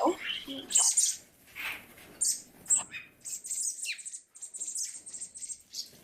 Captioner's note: chirping